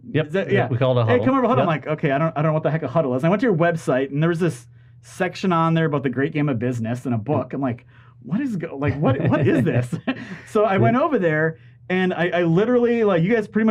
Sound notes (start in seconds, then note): 8.7 laughing